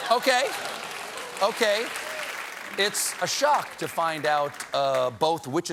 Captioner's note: applause